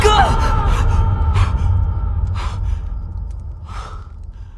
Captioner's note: breathes heavily